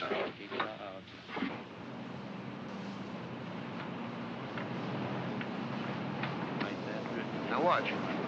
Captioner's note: low frequency hum